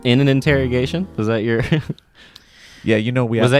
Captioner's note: laughs